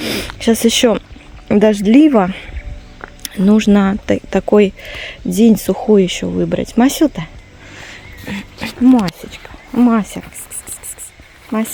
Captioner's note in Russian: фыркает